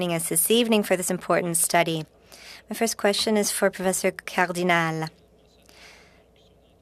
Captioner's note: speaking French